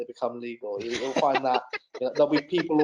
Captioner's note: laughing